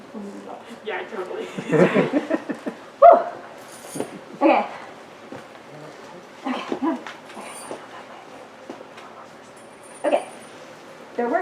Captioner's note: audience giggles